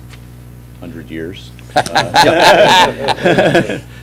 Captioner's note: laughter